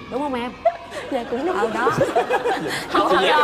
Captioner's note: laughs